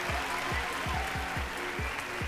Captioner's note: applause